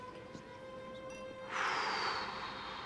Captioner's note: sighs